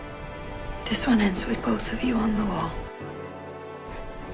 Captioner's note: voiceover